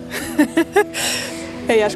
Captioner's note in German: lacht